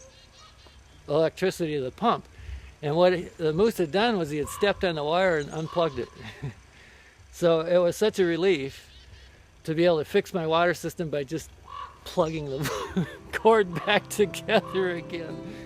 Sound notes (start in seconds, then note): 5.8 laughs